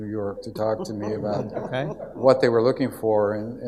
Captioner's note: audience laughs